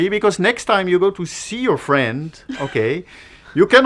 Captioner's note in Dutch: lach